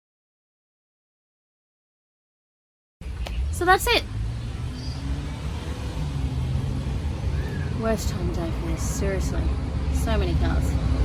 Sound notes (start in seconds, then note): 3.1 loud car goes past; 10.8 loud bus goes past